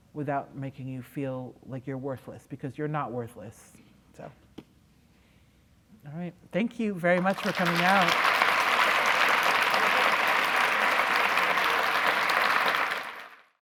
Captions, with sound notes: without making you feel like you're worthless? Because you're not worthless, so all right. Thank you very much for coming out. [ Applause ]